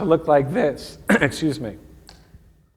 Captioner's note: clearing throat